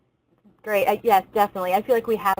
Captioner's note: voiceover